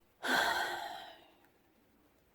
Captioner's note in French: soupire